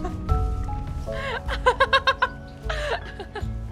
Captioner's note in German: lacht